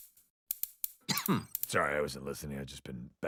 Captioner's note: coughs